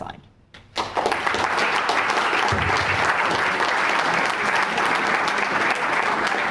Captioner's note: audience applauds